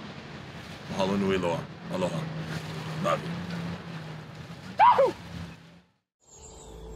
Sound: speaking in foreign language; shouting; soft thoughtful music

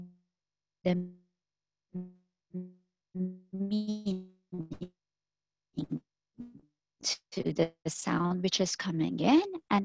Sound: audio fading

